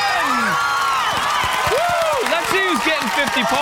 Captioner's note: cheering